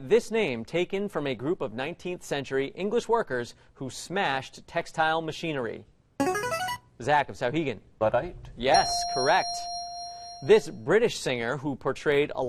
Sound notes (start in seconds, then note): 5.4 player buzzer; 8.7 ding